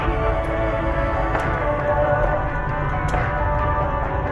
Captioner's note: none